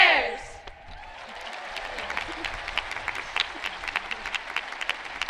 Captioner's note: audience cheering